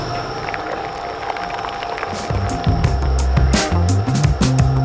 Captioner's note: liquid pouring; upbeat music